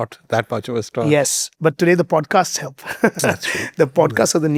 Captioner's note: laughing